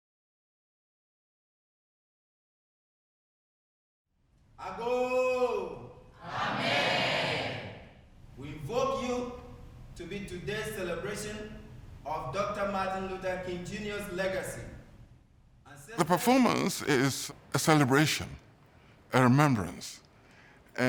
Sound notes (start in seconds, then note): 5.1 performer speaking in a world language